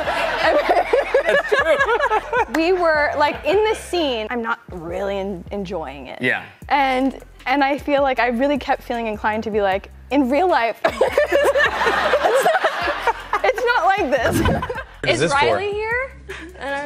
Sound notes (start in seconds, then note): 0.0 laughing; 10.9 laughing